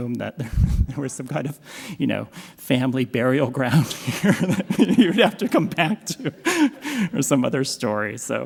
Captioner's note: laughs; laughs